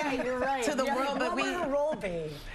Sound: laughter

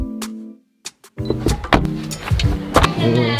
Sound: door slams; trunk clicks

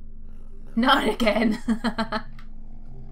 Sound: laughs

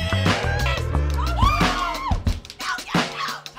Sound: shouting

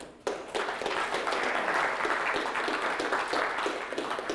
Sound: applause

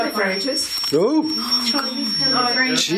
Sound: loud beeping

